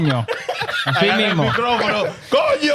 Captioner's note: speaking In Foreign Language